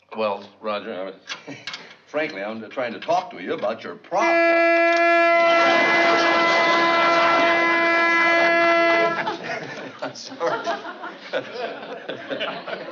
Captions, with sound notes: Well, Roger, frankly, I'm trying to talk to you about your problem. [HORN HONKING] I'm sorry. [LAUGHS]